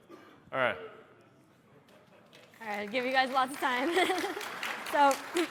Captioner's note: applause